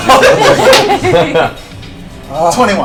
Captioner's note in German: Gelächter